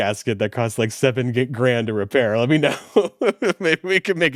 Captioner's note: laughs